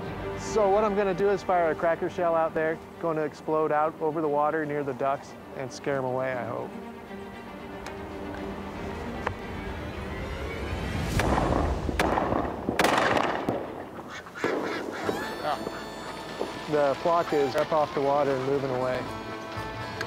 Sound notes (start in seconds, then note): 11.2 gun firing; 13.8 ducks quacking